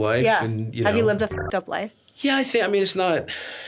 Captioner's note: beeps